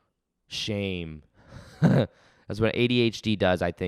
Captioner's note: chuckles